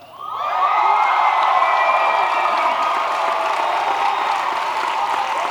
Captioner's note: applause